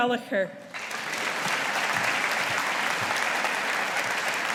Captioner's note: audience applauding